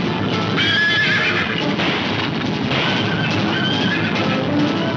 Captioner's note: horses neighing; gunfire pops; horses neighing